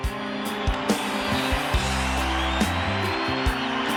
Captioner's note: crowd cheers